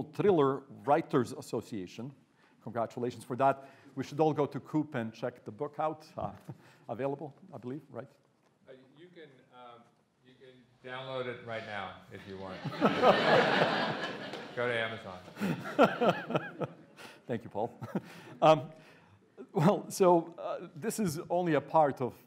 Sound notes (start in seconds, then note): 12.3 audience laughing; 15.3 laughing